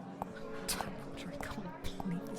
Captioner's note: mumbling